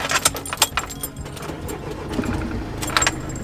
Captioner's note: engine starts